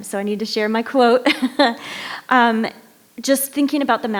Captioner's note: chuckles